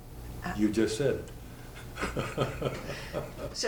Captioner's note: laughter